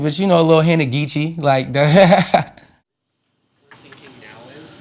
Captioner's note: laughing